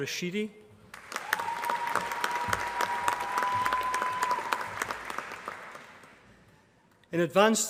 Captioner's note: applause